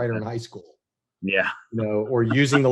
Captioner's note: chuckles